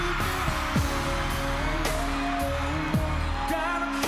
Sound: screams

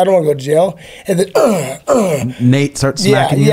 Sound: groans

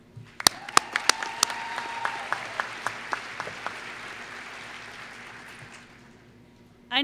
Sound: applause

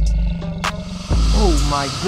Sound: alligator hisses

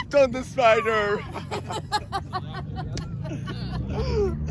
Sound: laughing

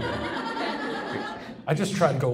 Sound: audience laughs

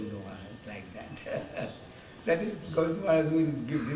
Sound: chuckles

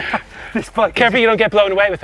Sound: laughing

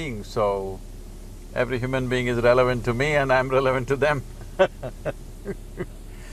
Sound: laughs

